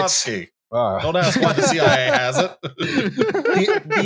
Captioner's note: laughs